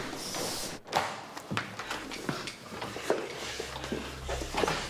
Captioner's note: footsteps plodding; door clattering